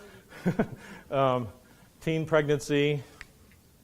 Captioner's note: laughs